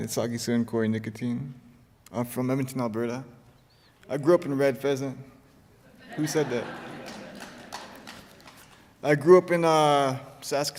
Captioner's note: laughter